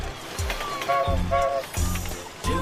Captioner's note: train toots; toot toot